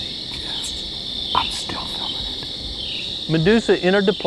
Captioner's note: whispering